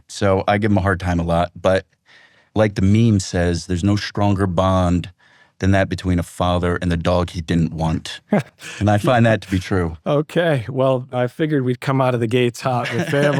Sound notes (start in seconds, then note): 8.2 laughs